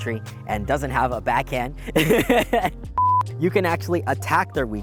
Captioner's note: laughs